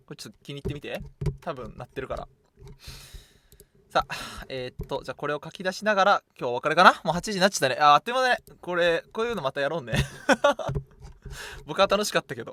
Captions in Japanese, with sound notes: [ため息] 8 時になっちゃったね。あ、てまだこれこういうのやろうね。僕は楽しかったけどね。たまにはこうでやろうね。すいません。いい回でした。失礼しました。じゃ、これをこうしてき出しよう。 [笑い]